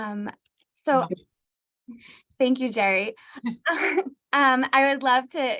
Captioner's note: laughter